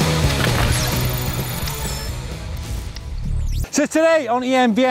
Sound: electrical noises

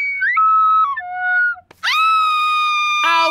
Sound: tuneless squeaking; screams

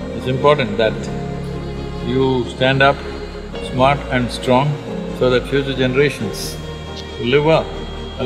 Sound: none

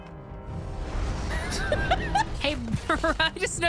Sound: laughter

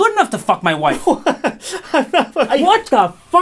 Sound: laughs

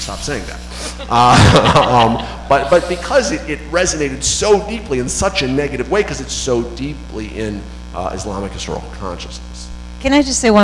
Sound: laughter

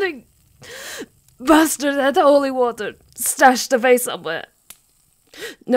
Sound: sobbing

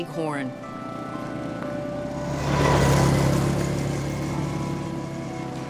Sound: engine rumbling

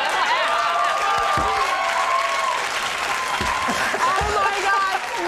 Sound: audience laughs; audience cheers

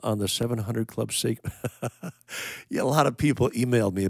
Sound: chuckling

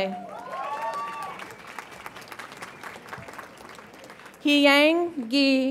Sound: audience applauds and cheers

